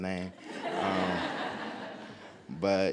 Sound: audience laughs

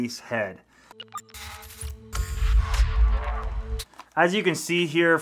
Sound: electronics beeping

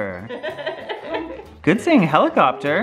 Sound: laughs

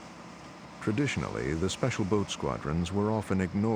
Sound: voiceover

